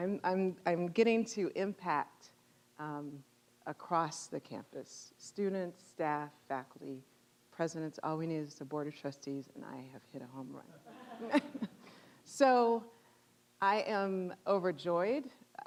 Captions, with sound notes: I'm getting to impact across the campus, students, staff, faculty, presidents. All we need is the Board of Trustees and I have hit a home run. (audience laughing) So I am overjoyed.